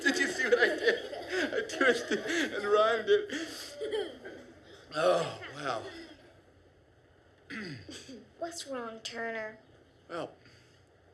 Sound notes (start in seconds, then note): 0.0 laughter; 7.5 clears throat